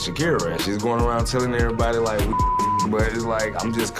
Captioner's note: beep